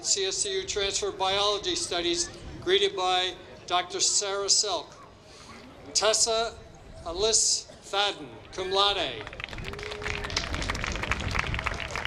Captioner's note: applause